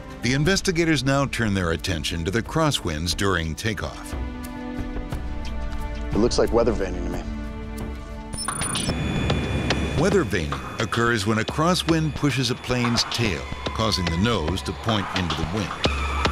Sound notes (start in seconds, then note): 8.5 mechanical beeping; 16.1 tires screeching